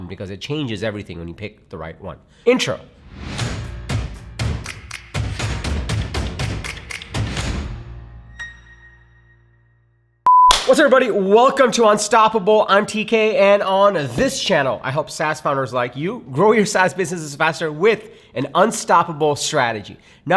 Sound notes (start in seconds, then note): 3.4 upbeat music; 10.3 monitor beeping